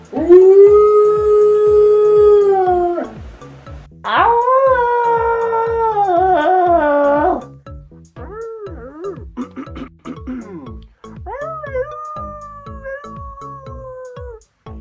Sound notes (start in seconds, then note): 0.9 howls in English; 5.3 howls in English; 8.5 tries to howl; 9.4 clears throat; 12.6 howls in Spanish